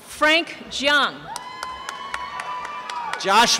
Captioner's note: applause and cheering